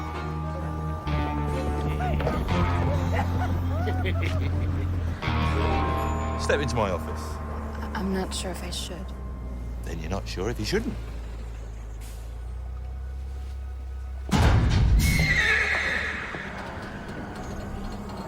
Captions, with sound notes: ( men laughing ) STEP INTO MY OFFICE. I'M NOT SURE IF I SHOULD. THEN YOU'RE NOT SURE IF YOU SHOULDN'T. - ( metal clanks ) - ( horse neighs )